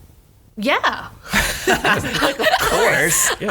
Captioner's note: laughs